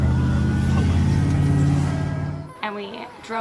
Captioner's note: engine revving